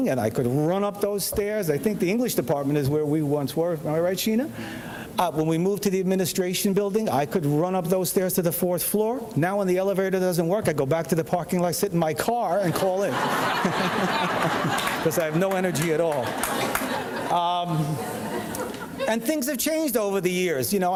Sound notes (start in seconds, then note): 12.6 audience laughing